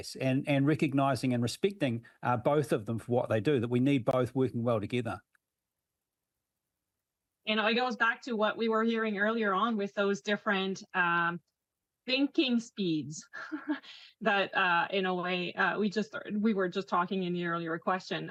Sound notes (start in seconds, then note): 13.3 laughs